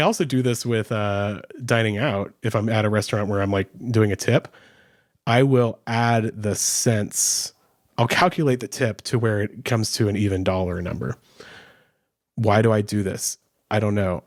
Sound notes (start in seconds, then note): none